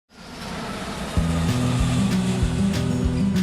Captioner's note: sound of jet engine